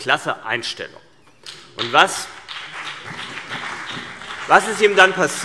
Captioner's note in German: Beifall CDU und BÜNDNIS 90/DIE GRÜNEN